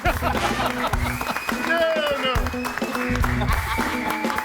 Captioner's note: audience applauds and cheers; laughs; audience applauds